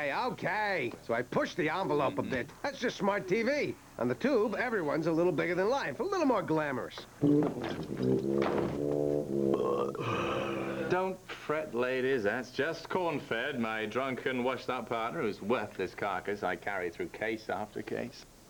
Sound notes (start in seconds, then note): 7.2 burps